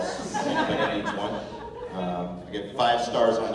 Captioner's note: laughter